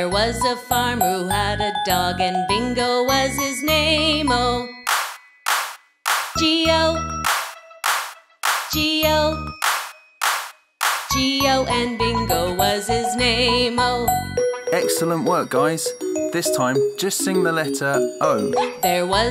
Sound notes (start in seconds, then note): 5.2 loud claps; 10.8 loud claps